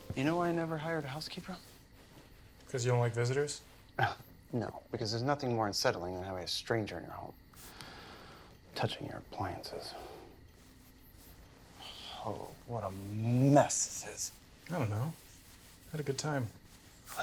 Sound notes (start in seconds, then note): 3.5 scoffs; 11.8 sighs